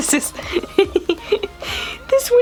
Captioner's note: laughter